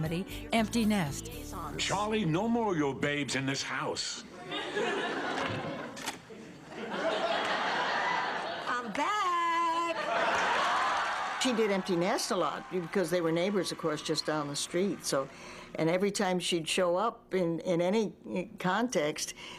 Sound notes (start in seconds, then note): 7.3 laughs; 10.2 applause